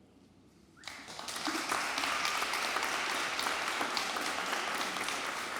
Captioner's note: audience applauding